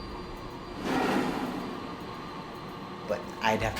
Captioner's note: scraping sound